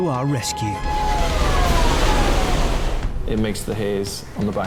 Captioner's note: alarm blaring; dramatic music continues